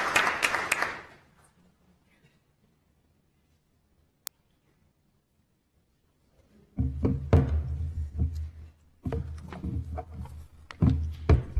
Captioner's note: applause